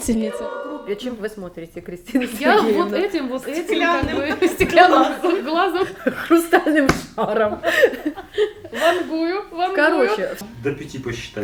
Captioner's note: indistinct chatter and laughter